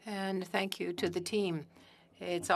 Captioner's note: speaking French